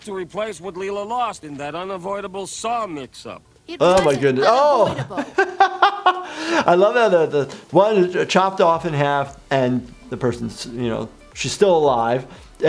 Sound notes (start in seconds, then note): 4.4 laughing